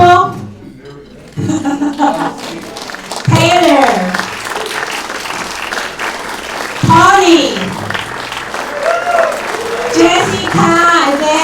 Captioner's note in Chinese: 掌声